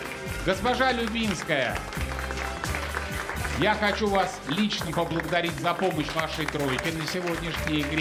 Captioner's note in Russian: аплодисменты